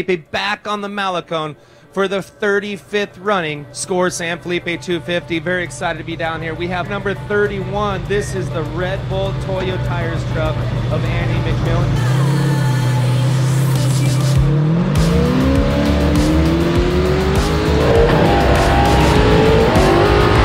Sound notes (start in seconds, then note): 12.4 upbeat music; 15.2 car engine revving